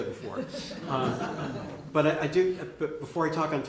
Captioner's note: laughter